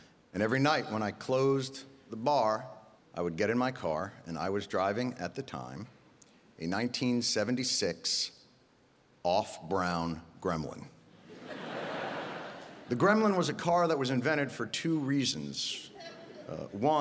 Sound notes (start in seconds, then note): 11.2 audience laughing